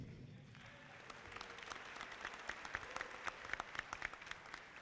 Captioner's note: audience clapping